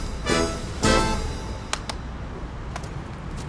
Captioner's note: slaps on the arm